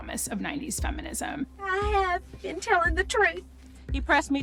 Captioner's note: voice breaking